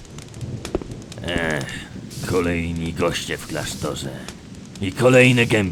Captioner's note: sigh